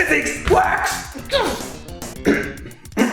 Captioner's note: clearing throat